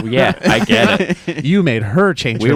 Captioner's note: laughing